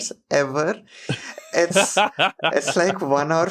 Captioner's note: laughs